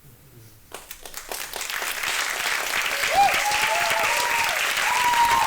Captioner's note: audience clapping